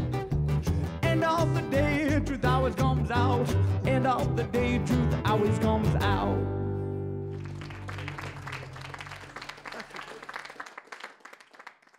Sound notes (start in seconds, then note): 0.4 singing; 7.3 applause